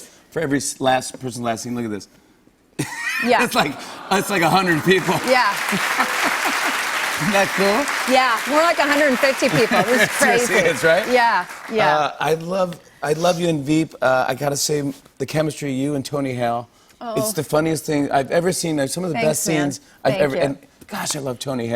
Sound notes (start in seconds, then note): 3.4 audience aws; 5.8 applause